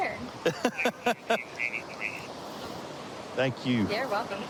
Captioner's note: laughing